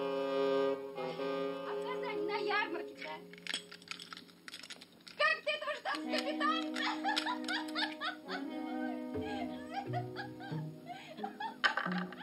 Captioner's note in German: lacht